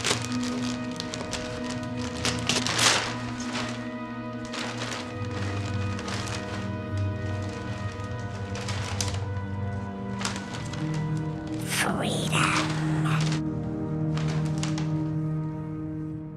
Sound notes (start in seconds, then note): 11.8 creepy voice